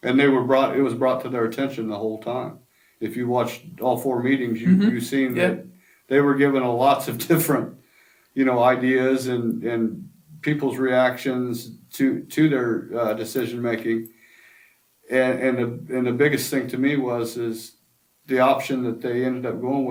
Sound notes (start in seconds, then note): 7.5 laughs to self